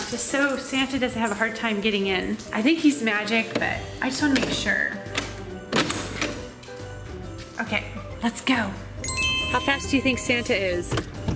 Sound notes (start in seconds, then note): 9.0 sparkling